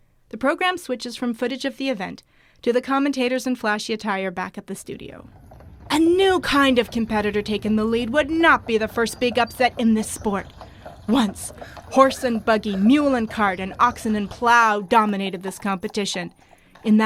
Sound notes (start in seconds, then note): 5.7 horses clip clop